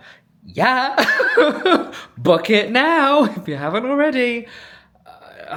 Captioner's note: laughing